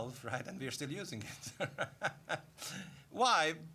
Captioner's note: laughing